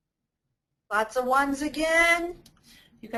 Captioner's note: voiceover